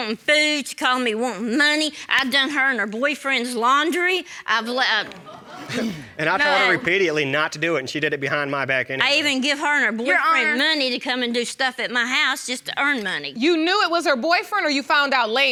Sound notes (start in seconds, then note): 5.6 scoffs